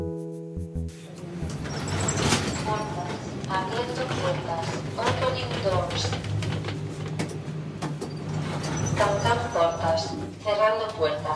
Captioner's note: elevator: opening doors, closing doors